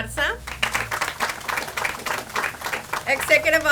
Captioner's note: audience applauds